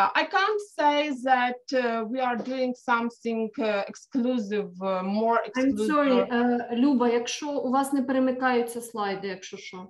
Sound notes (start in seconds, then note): 6.9 speaking ukrainian